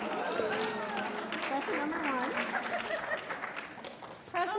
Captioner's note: laughs; applauds